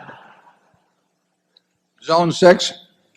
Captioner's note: laughter